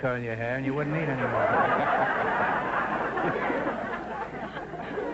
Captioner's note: audience laughter